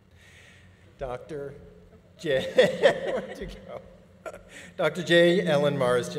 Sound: chuckles

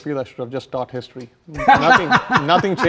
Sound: laughs

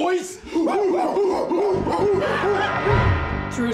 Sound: ape noises

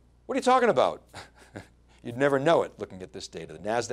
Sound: laughs

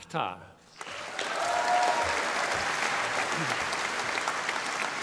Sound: audience applauding

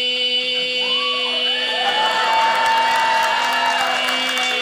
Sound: audience cheers; audience applauding

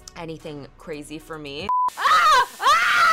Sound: TV beeps

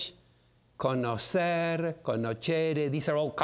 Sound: speaking in foreign language

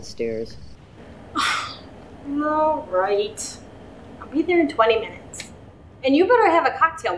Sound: sighing

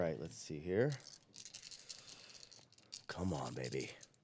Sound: dice shaking

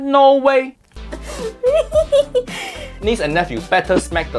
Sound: giggles

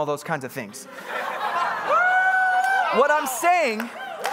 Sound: congregants laughing and cheering

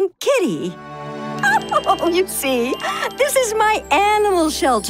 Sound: laughs

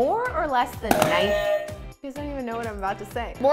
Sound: buzzers interrupt

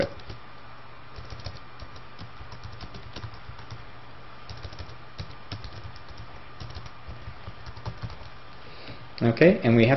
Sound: typing

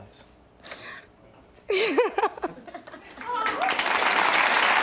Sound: audience applauding

